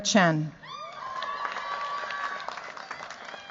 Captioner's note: cheers, applause